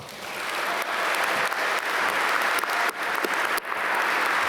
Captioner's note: applause